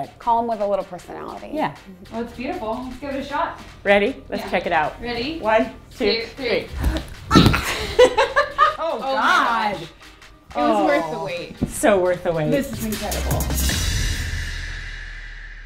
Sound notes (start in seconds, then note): 6.8 laughing